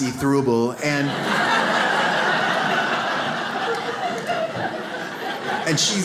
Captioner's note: audience laughs